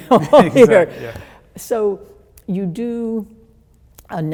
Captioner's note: laughs